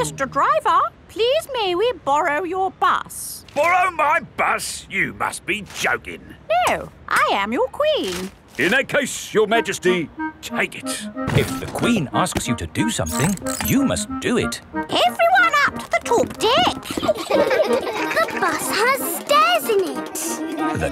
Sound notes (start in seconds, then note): 16.4 kids laughing